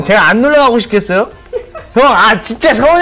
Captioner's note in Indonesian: Tertawa